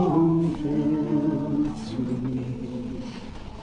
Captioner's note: none